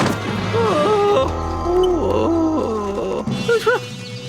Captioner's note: moaning